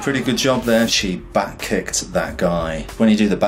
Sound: air whooshes

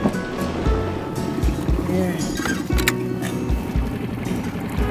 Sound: boat motor roaring

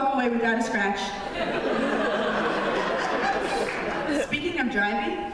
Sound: laughter

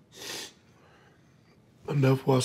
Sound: sniffs

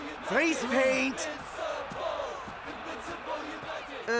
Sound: crowd chanting

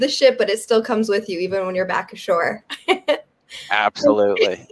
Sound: laughs

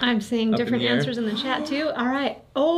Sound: Math Dad gasps

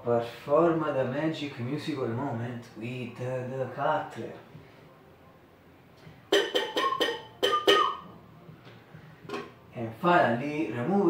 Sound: whistle

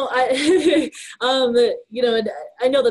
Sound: laughs

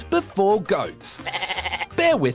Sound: bleats

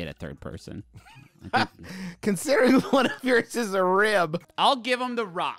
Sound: laughing

